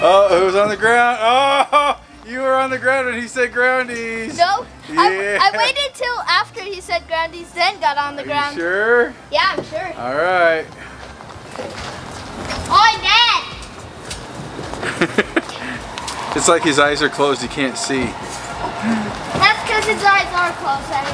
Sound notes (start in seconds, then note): 14.8 laughs